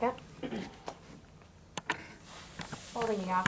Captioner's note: clears throat